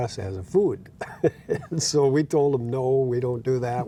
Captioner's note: laughing